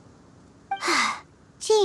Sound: sigh

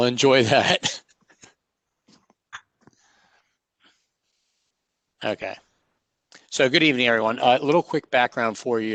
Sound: laughter

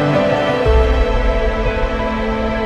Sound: boom

